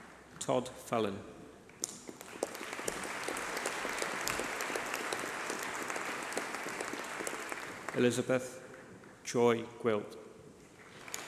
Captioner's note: applause